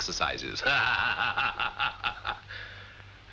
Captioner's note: laughter